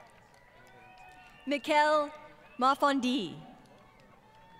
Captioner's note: crowd Cheering & Applause